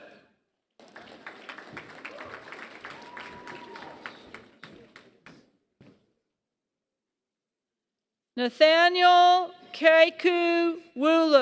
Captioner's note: applause